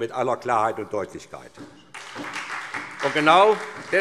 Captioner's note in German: Beifall SPD